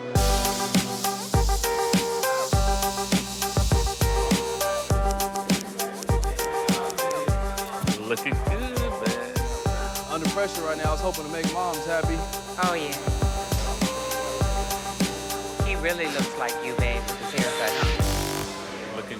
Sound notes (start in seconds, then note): 0.2 upbeat pop music; 5.2 scissors clipping